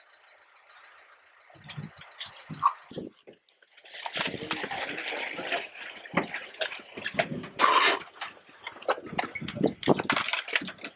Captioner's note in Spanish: La maquinaria agrícola funciona en segundo plano